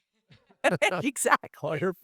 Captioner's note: laughing